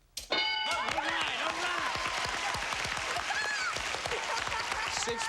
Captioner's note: cheers and applause